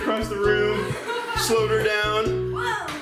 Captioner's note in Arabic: يضحك